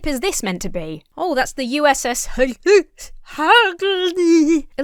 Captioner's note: speaks gibberish